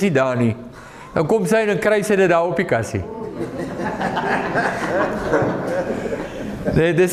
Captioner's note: audience laughing